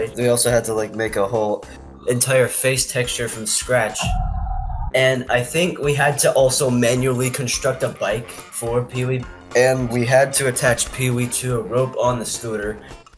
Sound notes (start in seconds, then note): 3.9 eerie ambience